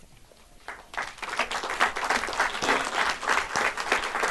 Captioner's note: audience claps